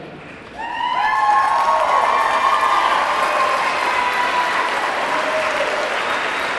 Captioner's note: audience clapping; audience clamoring